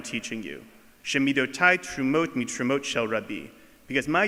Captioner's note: speaking foreign language